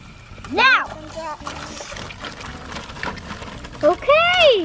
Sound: squelching

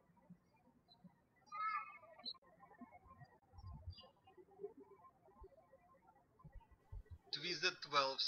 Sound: birds chirping

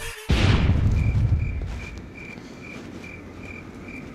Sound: insects chirping

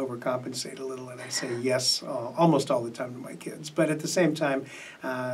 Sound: chuckles

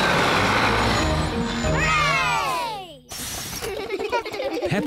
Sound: all cheer

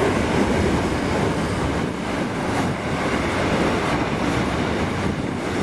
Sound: train noise

